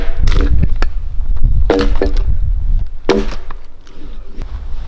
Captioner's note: wood cracking